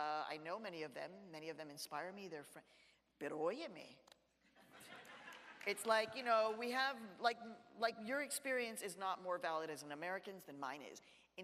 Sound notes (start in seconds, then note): 2.6 speaks in Spanish; 4.6 audience laughs